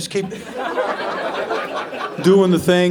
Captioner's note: audience laughing